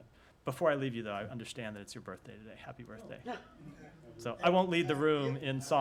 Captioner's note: laughter